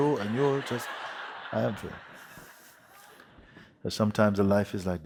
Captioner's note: laughter